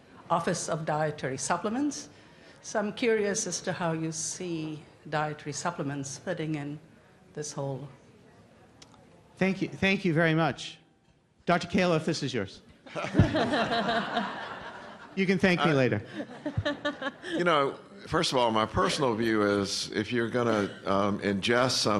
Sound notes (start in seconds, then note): 12.8 laughter; 17.2 laughter